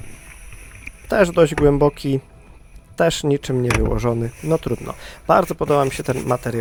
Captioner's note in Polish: parsknięcie